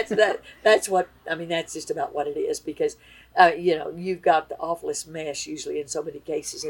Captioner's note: laughs